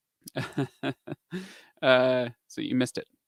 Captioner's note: laughs